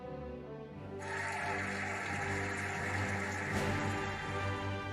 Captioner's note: cheering and applauding